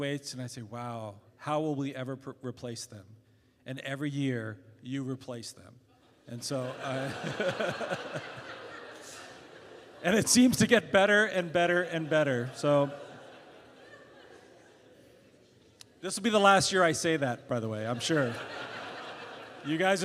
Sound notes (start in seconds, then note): 6.4 laughter; 6.6 laughs